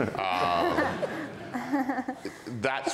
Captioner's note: audience and panel laughs